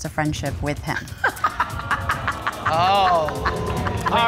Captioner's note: laughing